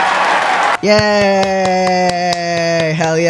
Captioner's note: clapping